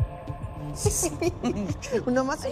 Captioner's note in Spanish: Risas